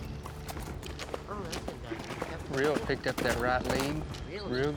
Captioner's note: hoof beats